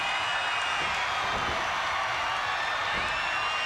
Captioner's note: crowd cheers